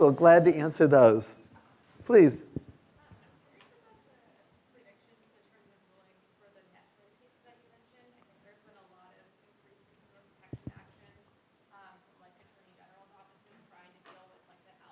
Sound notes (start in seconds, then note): 3.1 student speaking faintly